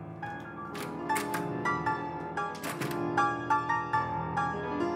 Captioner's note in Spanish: acordes en el piano; portazo